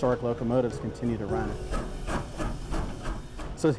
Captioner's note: train chuffing